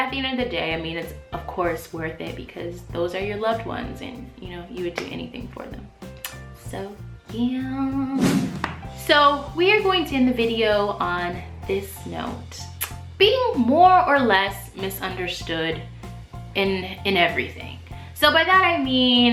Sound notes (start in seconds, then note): 8.1 swoosh